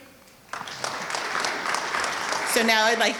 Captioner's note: audience clapping